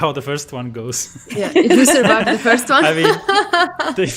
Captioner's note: laughs